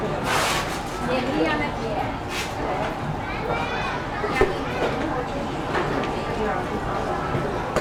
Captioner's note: speaking in Mandarin